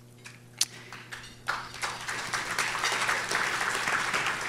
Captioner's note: audience applauds